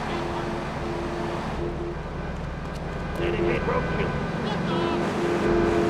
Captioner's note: car engine roaring